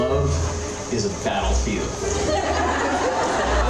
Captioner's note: laughter